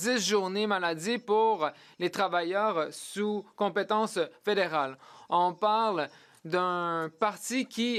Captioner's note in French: voix de l'interprète